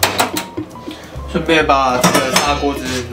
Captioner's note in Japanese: ガチャン